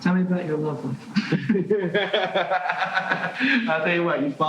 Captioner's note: laughing